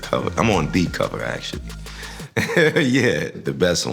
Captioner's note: chuckles